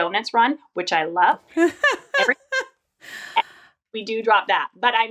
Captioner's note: laughing